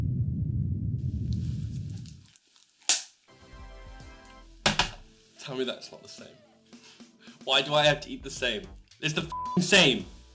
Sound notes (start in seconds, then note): 1.2 sound of a can being opened; 3.2 Windows 95 Congratulations sound